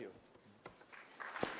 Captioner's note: applause